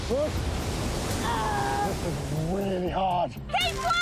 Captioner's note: screaming